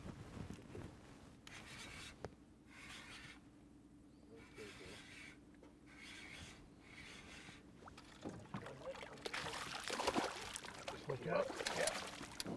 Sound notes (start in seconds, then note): 1.5 reel spinning; 2.0 reel cranking; 10.0 fish splashing